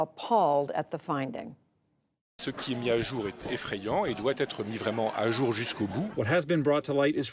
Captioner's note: through translator